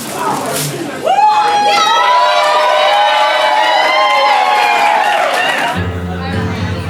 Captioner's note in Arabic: تصفيق